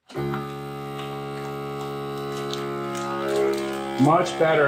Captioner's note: sealer buzzes loudly